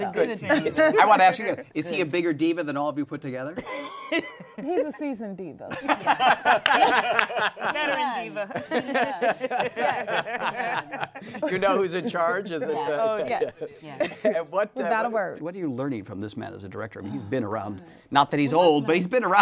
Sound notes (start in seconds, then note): 3.6 laughs; 6.7 laughter; 8.7 laughter